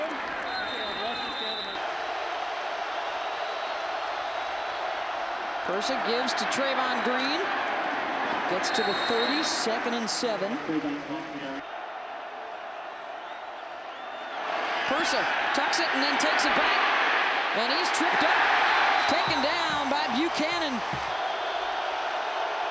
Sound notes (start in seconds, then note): 7.2 applause